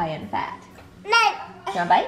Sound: babbles

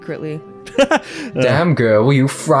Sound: cackles

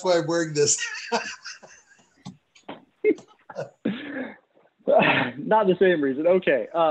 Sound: laughter

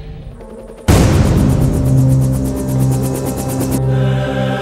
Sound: helicopter whirring

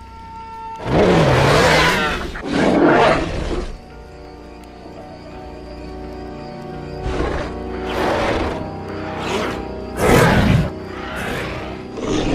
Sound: growl Sounds

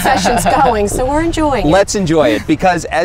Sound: laughter

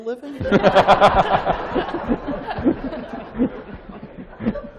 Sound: laughter

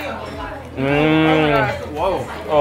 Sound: groans in delight

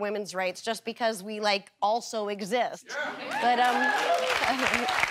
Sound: audience cheering

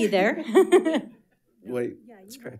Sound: chuckling

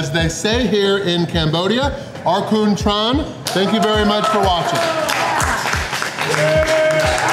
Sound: crowd clapping

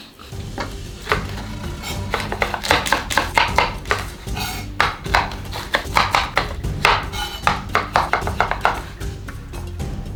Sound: SFX: Chopping

